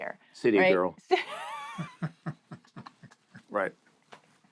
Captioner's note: laughter